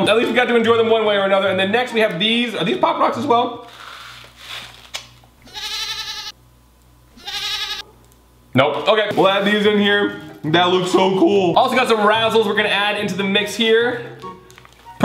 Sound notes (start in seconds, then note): 7.1 bleating